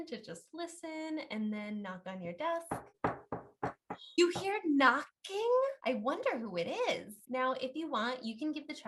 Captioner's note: knock, knock